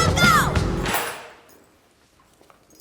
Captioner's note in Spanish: sonido de teclas